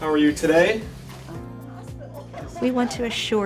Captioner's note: laughs